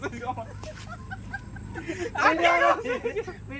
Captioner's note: laughing scene